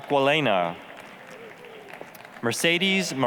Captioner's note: applause